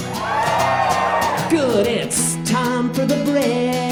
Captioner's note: audience cheering